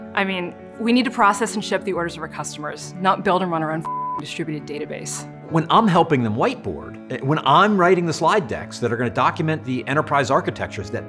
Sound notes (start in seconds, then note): 3.8 beep